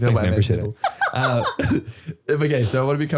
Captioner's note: laughing